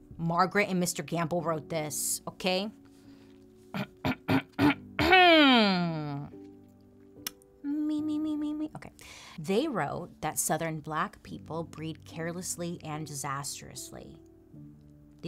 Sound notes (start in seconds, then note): 3.7 clears throat